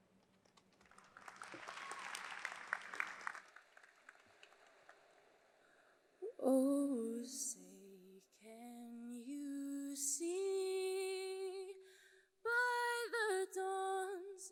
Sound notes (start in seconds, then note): 0.5 audience applauds